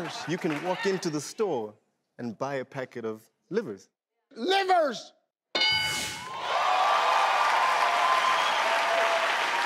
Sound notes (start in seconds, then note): 0.0 crowd laughs; 5.5 bell ring sound; 6.2 crowd cheers